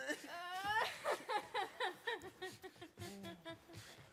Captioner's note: performer whimpering